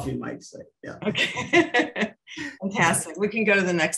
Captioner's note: chuckling